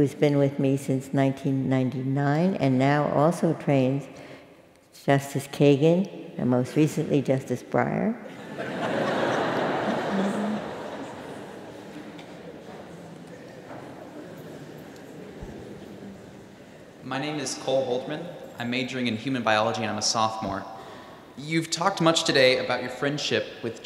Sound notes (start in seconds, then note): 8.3 laugh